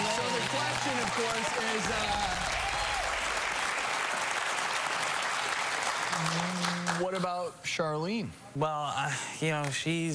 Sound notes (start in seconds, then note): 2.3 crowd cheering; 3.4 applause